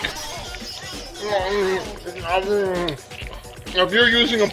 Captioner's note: eating sounds